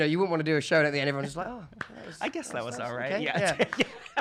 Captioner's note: claps